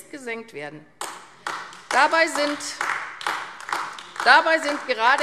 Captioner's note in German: Beifall AfD